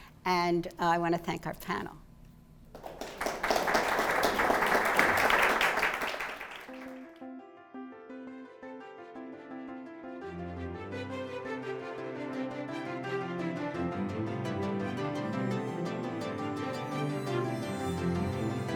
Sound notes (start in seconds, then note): 5.4 applause; 7.1 bright orchestral music